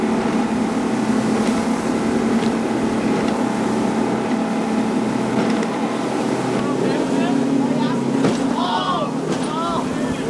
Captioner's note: yelling